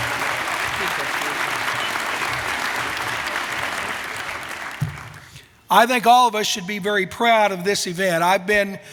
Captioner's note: applause